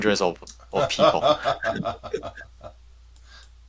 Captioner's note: laughs